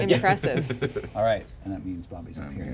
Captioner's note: laughs